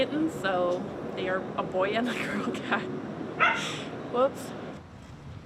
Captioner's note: laughs